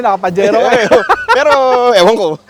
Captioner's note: laughs